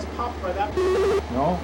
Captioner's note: buzzing/beeping